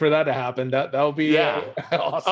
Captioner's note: laughs